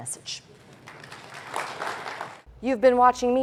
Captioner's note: applause